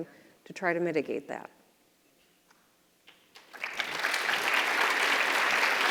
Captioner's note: audience applauds